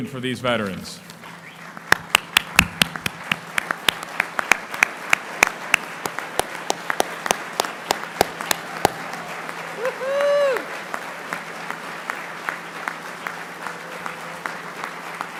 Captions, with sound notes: - How 'bout a standing ovation for these veterans? (applauding) (cheering)